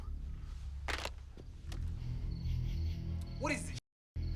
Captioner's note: phone thuds